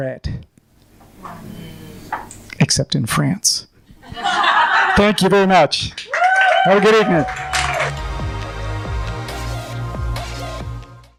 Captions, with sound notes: except in France. (laughing) Thank you very much. (applause) Have a good evening.